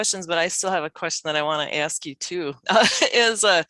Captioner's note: laughs